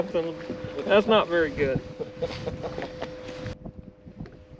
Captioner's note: laughter